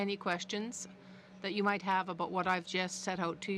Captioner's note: speaking french